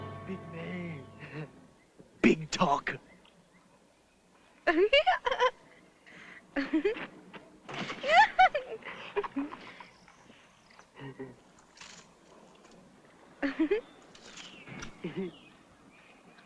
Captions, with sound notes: Big man. Big talker! [ LAUGH ]